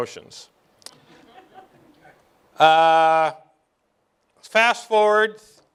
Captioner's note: light laughter